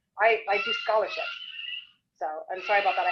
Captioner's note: child screaming